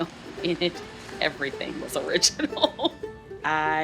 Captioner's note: laughs